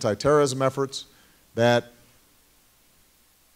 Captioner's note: none